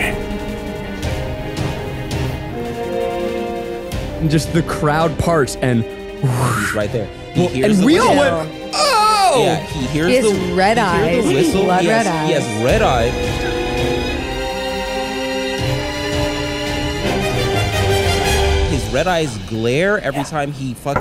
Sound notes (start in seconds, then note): 0.0 suspenseful music; 0.2 whispering; 5.8 sound effect; 12.5 suspenseful music builds